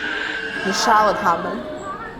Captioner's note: Mandarin language